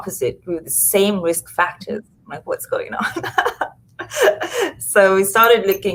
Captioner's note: laughs